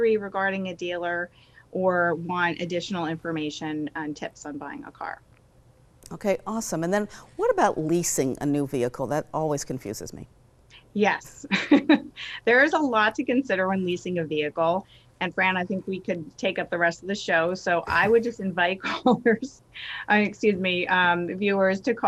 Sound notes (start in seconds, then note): 11.4 laughter